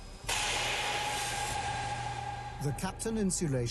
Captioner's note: sizzling